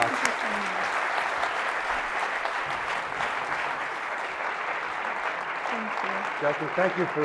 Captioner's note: applause